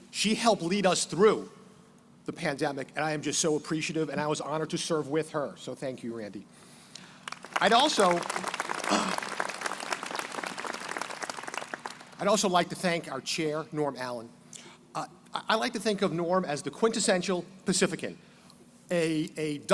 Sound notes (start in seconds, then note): 7.2 crowd applauding